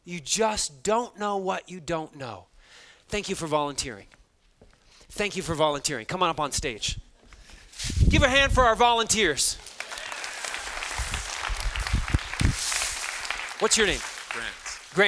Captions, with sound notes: You just don't know what you don't know. Thank you for volunteering. Thank you for volunteering. Come on up on stage. Give a hand for our volunteers. (students laughing) What's your name? - Grant.